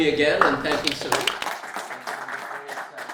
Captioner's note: applauding